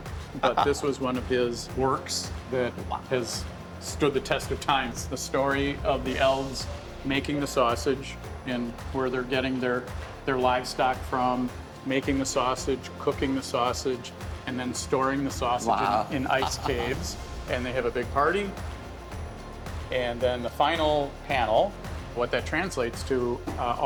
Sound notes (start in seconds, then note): 15.9 laughter